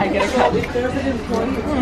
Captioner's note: laughing